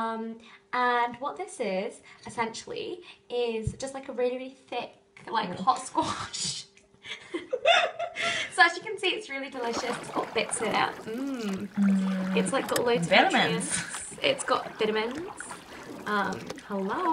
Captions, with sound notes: And what this is, essentially, is just like a really thick hot squash So as you can see, it's really delicious; it's got bits in it. Mmmmm (waterfall sound effect) It's got loads of nutrients, it's got vitamins - hello! (waterfall sound effect)